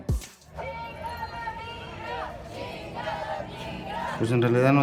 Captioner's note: crowd chants